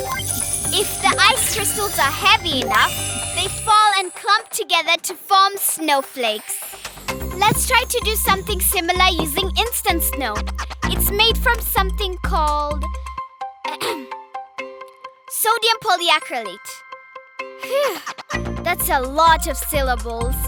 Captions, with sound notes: If the ice crystals are heavy enough, they fall and clump together to form snowflakes! Let's try to do something similar using instant snow! It's made from something called... (clearing throat) sodium polyacrylate! Phew! That's a lot of syllables!